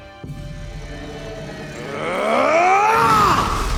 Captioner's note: screams